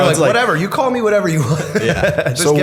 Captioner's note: chuckle